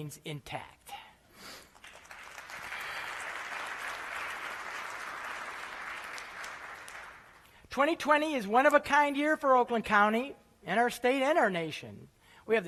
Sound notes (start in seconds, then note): 1.6 applause